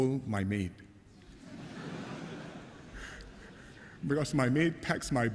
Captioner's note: laughter